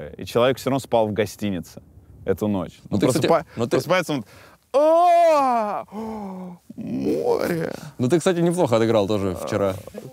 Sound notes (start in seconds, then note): 4.7 exaggerated yawn, gasp